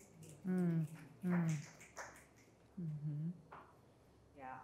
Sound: audience applauds

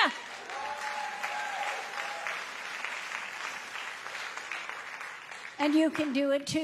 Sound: congregation applauds

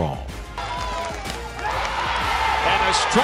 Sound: crowd cheering

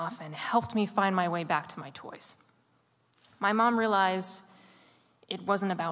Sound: none

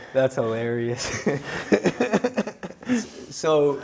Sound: Mike laughs

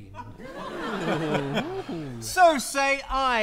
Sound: audience laughs

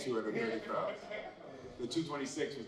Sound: laughter

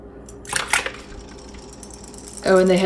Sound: toys clicking; toys plopping

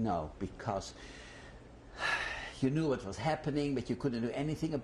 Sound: sighs

